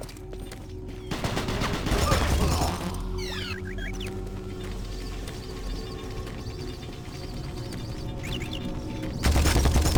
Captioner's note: gunshots; gunshots